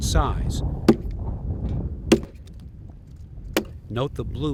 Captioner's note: axe thudding